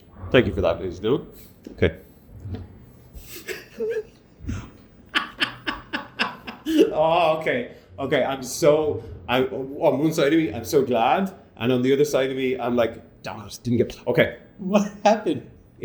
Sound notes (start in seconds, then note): 5.1 cackles